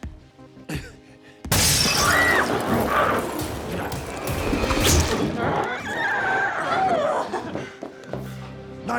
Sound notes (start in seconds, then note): 1.5 glass shatters; 1.6 Chalee screams; 5.2 glowzie shrieks